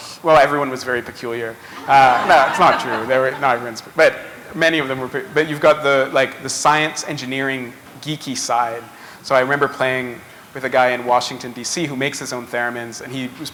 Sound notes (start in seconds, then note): 1.6 laughter